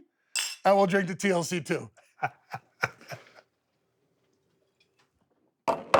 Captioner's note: Stone Cold laughs